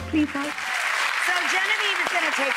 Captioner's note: applause